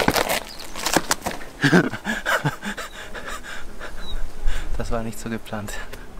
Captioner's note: laughter